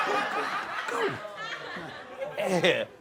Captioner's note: audience laughing